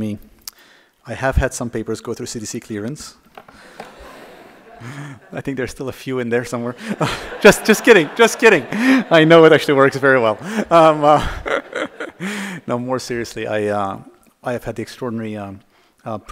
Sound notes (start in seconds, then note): 6.6 laughter